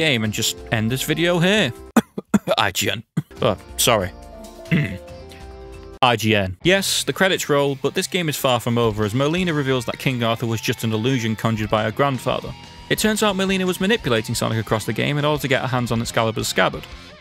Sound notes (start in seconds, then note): 1.9 cough